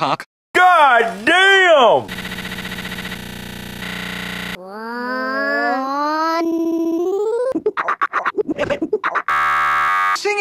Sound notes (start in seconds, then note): 4.5 "nooo" reversed and stuttering